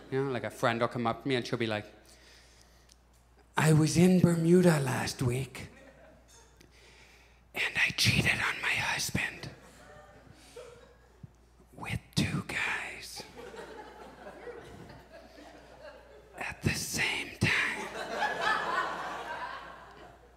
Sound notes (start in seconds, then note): 7.3 whispering; 13.3 audience chuckles; 17.7 audience laughs